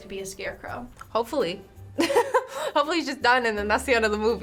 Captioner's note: laughs